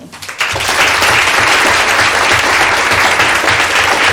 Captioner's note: applause